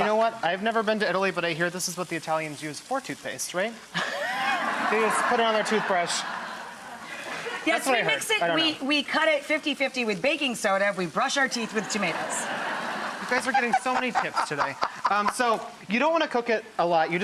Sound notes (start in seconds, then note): 3.9 laughter